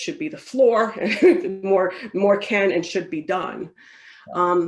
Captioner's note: laughs